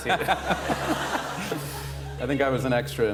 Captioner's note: laughter